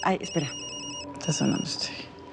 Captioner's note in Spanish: Suena el celular